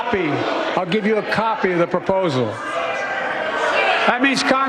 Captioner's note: shouting and boos